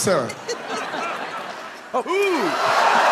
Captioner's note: people laughing